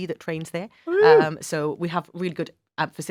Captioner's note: cheers